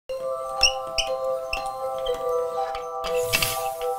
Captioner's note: calm music; wheel squeaks; parts click; air whooshes